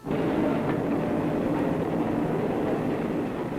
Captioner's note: whirring machinery